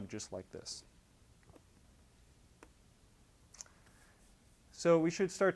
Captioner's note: pause